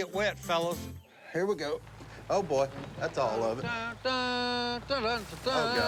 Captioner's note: Si humming upbeat tune